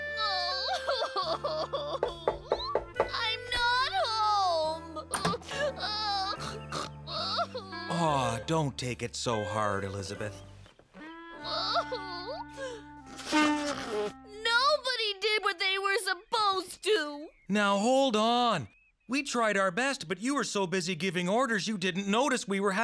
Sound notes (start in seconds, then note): 0.0 sobbing; 6.2 sobbing, nose honking